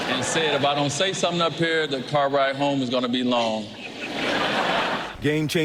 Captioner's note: laughter